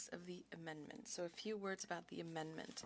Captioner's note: speaking French